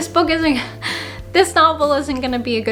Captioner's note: scoffs